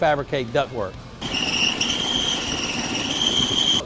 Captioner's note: whirring